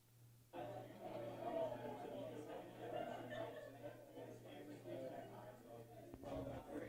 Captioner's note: background Discussion